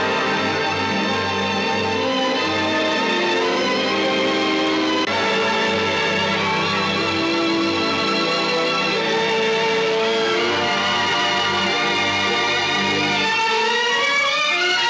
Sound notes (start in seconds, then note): 7.8 video Recording Playing